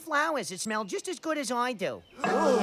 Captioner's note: giggles